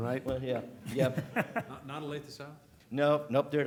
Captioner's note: laughter